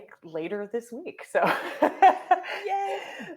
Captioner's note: laughing